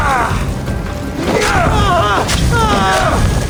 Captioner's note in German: stöhnen; schreien